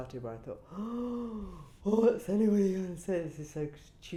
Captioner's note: gasps